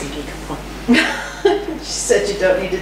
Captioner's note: laughs